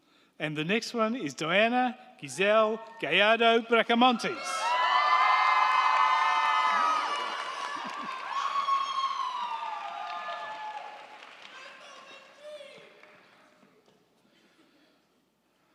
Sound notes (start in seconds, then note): 3.8 crowd cheering; 4.8 crowd clapping